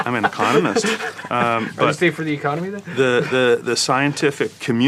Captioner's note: laugh